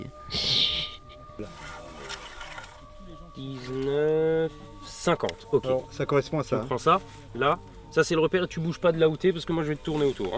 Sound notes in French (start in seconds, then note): 1.9 bruit de mètre ruban qu'on déroule